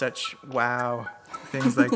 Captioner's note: laughs